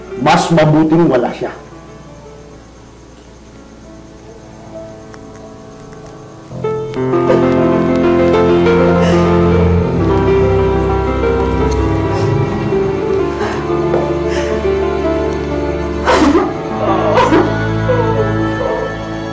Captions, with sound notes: It's better without him. [cries] [sobbing]